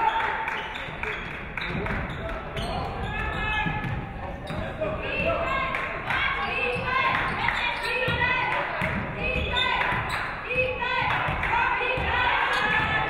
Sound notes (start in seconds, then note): 0.0 audience clapping; 0.1 audience cheering; 8.0 audience cheering